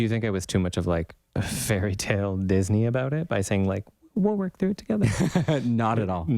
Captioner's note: laugh